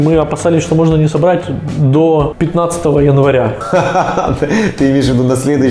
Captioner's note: is laughing